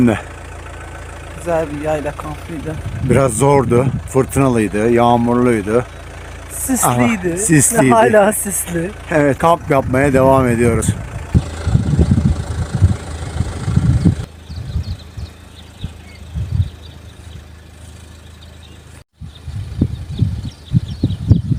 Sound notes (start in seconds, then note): 19.2 bird chirping